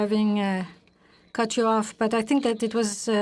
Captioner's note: speaking in French